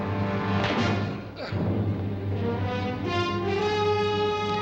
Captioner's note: grunting